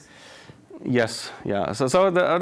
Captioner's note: none